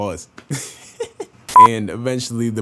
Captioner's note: sexy lightskin laugh